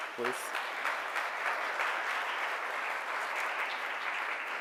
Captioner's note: audience clapping